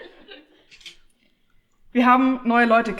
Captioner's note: laughter